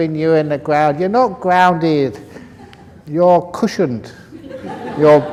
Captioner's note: laughter